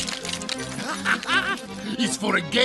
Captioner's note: chuckles